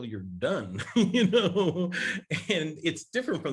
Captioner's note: Larry laughs